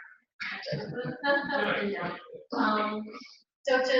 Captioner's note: laugh